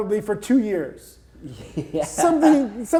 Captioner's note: chuckles